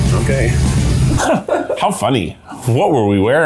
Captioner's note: laughing